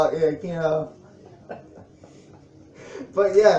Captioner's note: laughs